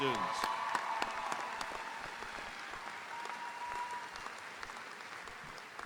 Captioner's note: audience cheering; audience applauding